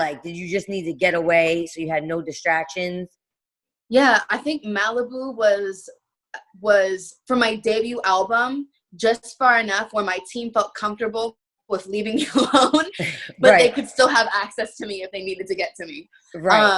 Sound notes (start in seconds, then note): 12.9 laughing